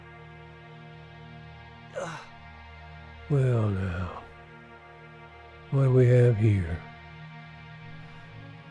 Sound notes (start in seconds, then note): 1.9 man groans